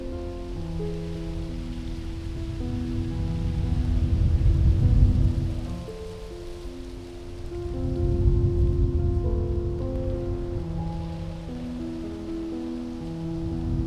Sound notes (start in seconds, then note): 1.5 a soft blowing sound